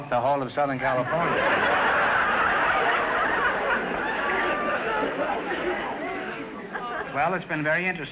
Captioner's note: audience laughter